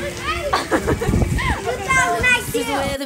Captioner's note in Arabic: تضحك